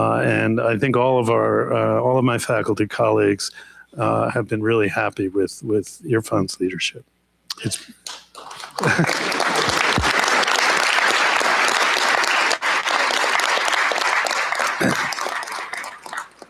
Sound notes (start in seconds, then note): 8.0 applause